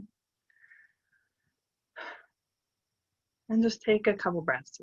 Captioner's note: breathes